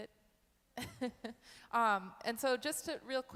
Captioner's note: chuckles